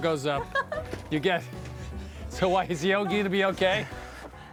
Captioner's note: laughs